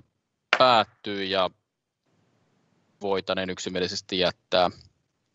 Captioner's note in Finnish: nuijan kopautus